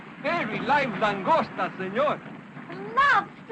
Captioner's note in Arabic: يتحدث الاسبانية